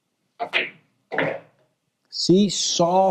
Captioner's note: ball smacks